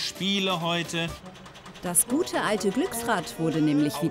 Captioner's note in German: ratterndes Geräusch, Musik